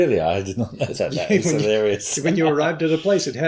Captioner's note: laughs